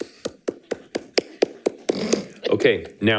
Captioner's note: people clapping